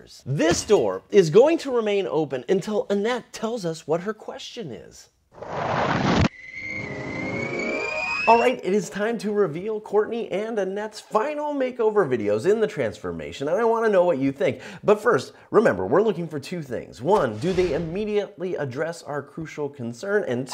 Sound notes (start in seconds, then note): 5.6 graphics whistling